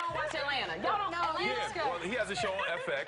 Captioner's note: applause